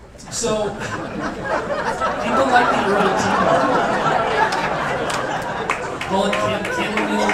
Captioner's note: laughter